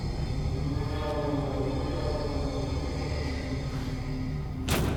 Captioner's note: ghostly moaning